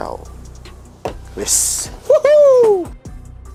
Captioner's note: freeedom noises